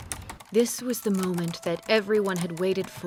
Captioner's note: typing